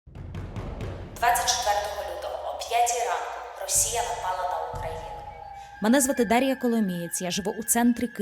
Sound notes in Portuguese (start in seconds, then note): 1.2 ucraniano